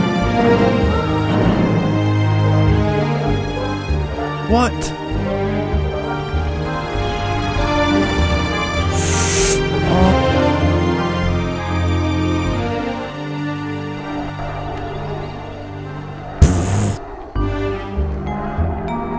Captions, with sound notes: What (Inhales) Aww Pfft